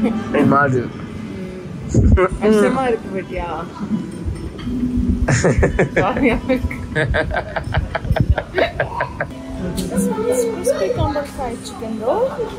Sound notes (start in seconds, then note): 5.2 laughs